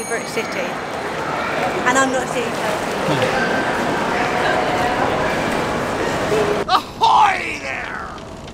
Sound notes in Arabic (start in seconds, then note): 2.5 أصوات مركز التسوق